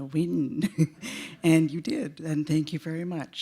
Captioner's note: chuckle